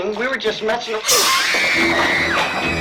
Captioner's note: screaming